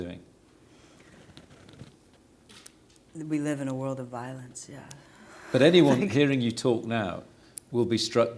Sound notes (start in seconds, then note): 5.3 soft laugh